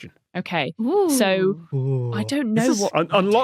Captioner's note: none